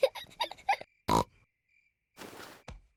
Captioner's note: both giggle; oinks